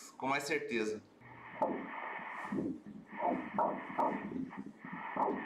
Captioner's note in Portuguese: batimentos cardíacos